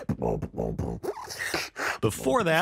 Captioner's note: beatboxing